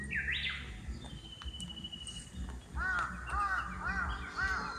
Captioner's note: I can hear the clear sound of birds, like something from a morning broadcast